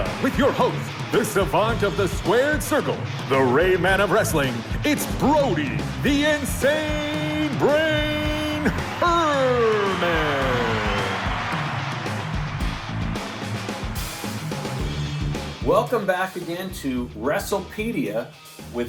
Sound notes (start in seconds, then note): 11.4 crowd cheering; 14.0 heavy metal music